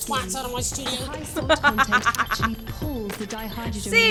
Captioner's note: laughs